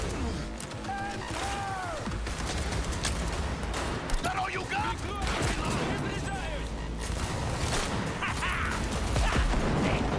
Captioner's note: gunfire